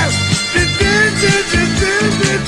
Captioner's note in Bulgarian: ту - ту -ту - ту- ту